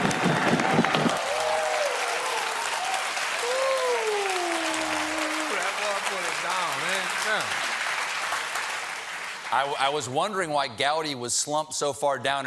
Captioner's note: applause